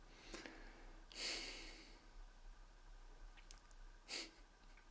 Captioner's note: sighing